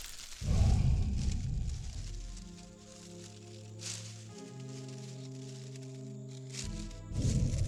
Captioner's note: leaves rustling; low rumbling growl